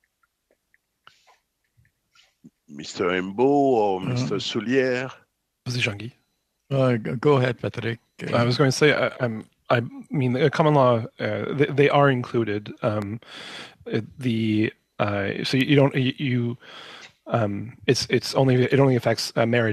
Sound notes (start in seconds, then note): 8.4 speaking French